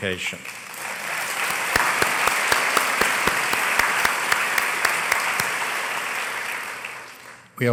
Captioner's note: applause